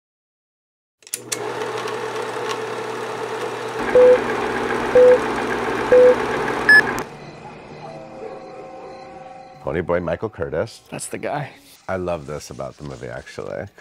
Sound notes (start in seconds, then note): 1.0 projector clicks; 1.0 film reel whirring; 7.1 insects chirping; 7.1 dogs barking; 8.1 train whistle howling